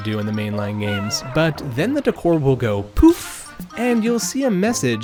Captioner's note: poof